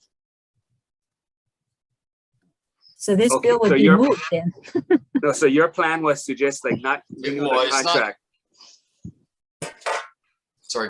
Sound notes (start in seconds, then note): 3.8 chuckles